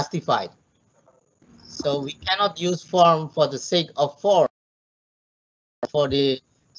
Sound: audio glitching

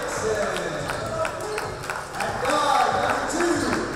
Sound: applause

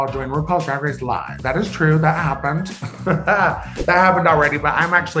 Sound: laughing

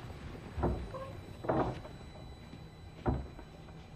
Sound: door opens and closes

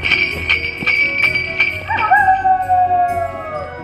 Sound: sleigh bells ringing; wolf howling

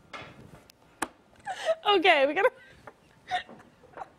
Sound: laughter

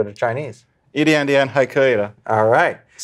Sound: speaking in Chinese

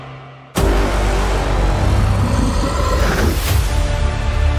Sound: dramatic music plays; Scar King growls and snorts

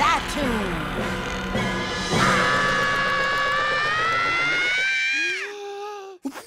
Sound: screams

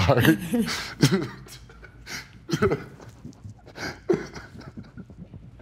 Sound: crying

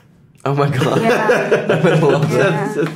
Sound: all laugh

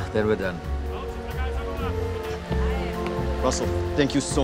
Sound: speaks in foreign language

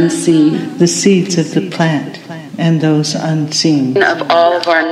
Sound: echoing

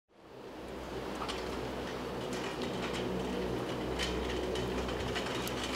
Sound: wind

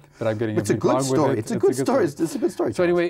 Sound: laughs

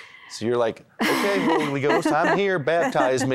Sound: laughter

